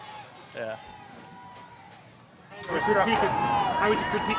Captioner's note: crowd chattering